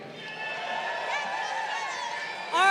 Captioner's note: crowd cheering